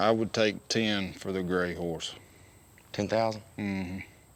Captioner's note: none